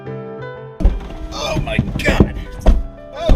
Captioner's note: moaning